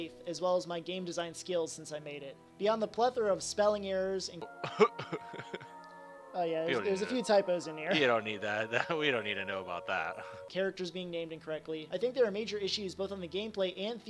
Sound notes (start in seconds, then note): 4.6 laughs